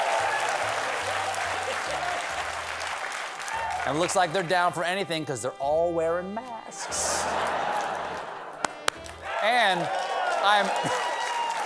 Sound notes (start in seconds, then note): 0.0 cheers and applause; 6.8 laughter; 7.6 clap clap